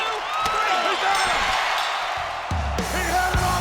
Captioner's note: bell rings